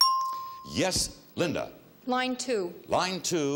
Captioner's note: bell dinging